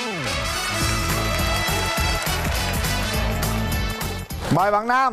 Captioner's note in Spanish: aplauso